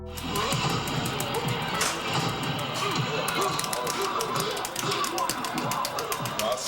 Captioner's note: dramatic music; upbeat music; fighters grunting